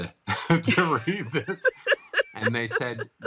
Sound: laughing

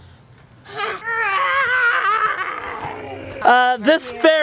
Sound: imitates growling sound

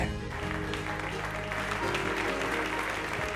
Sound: clapping

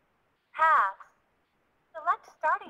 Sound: voiceover

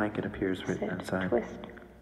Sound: mutters

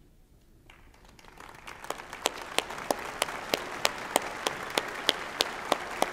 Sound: applause

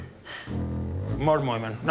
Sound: speaking Spanish

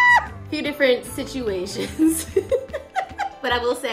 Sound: laughing; laughs

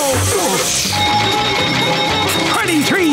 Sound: dinging

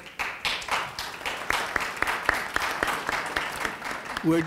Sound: audience applauding

